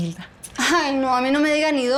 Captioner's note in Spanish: Risas